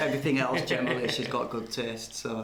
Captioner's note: laughs